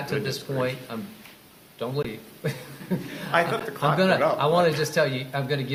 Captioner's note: laughter